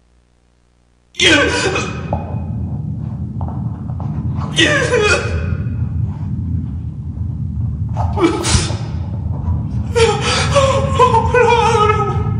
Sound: crying in pain

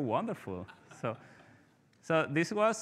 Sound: participants laughing

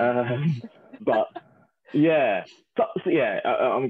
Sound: laughing

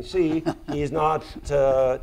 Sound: laughs

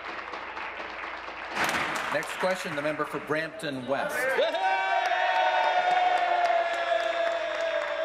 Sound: applause

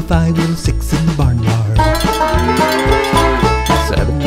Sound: goats baaing

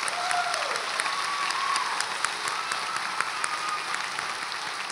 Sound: audience applauds

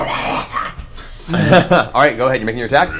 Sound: snarls

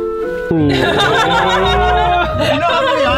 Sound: everyone laughing

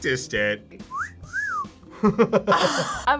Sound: whistles; both laugh

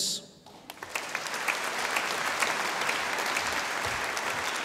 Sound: audience applauding

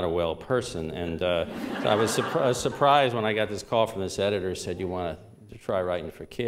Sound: laughter

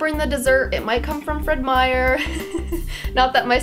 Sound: laughs

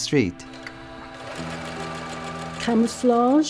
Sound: machine whirring

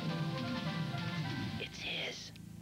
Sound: whispers

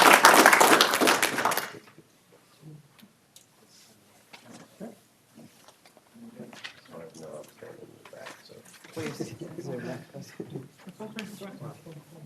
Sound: applause

